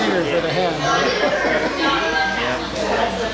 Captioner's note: laughing